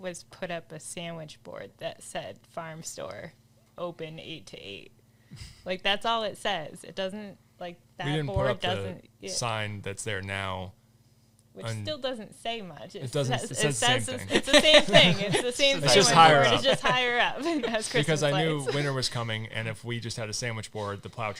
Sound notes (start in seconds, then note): 13.8 all laughing